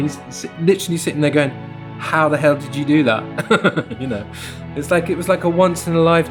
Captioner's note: laughter